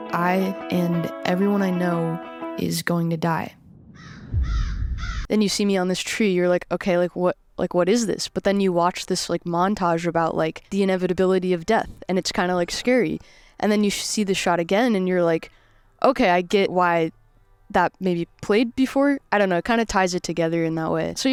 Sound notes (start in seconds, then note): 3.2 wind murmurs; 3.9 ominous music; 3.9 bird squawks